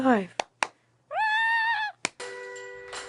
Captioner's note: clapping